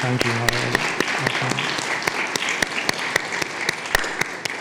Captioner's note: audience clapping